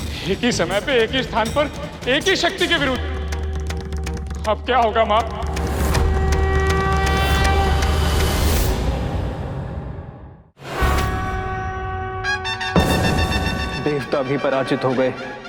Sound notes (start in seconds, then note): 6.0 conch blows; 12.7 bangs